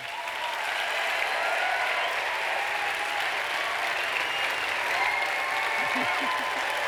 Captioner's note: applause